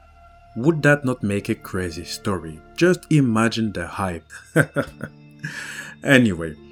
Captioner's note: laughs